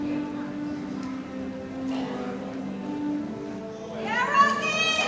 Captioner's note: audience applauding